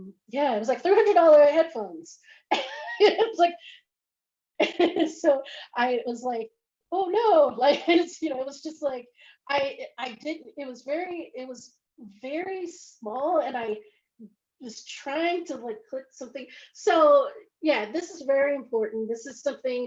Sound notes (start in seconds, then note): 2.3 laughs